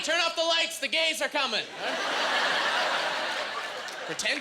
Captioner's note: laughing